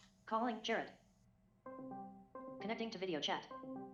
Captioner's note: web call rings